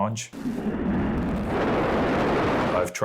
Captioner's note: rocket engines roar!